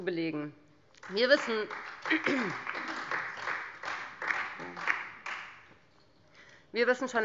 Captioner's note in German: Beifall Freie Demokraten und vereinzelt DIE LINKE